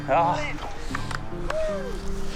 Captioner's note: hands clap